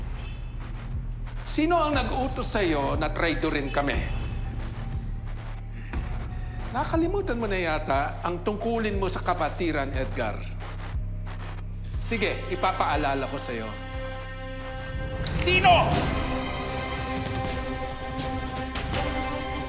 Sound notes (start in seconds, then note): 14.8 gun clicks; 16.4 tense music playing